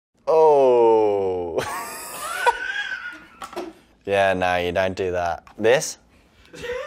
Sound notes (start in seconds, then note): 1.6 laughs